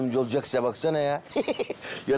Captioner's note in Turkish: Gülme sesi